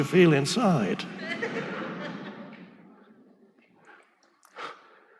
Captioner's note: audience laughing